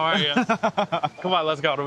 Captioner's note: laughing